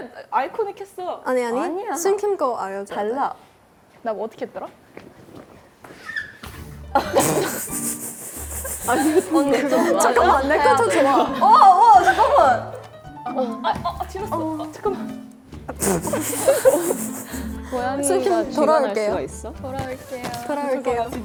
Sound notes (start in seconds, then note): 7.2 snort